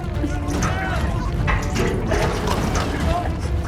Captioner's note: overlapping chatter